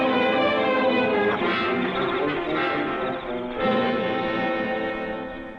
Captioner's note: footsteps pattering